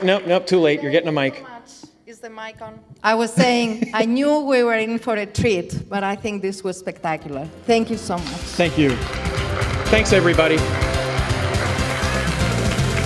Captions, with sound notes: Oh wait, no too late, you're getting a mic. - Thank you so much. Is the mic on? I was saying, I knew we were in for a treat, but I think this was spectacular. Thank you so much. - Thank you. (audience claps) Thanks everybody.